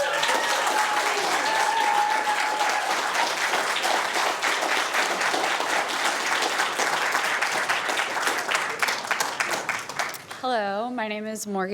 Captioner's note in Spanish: vítores y aplausos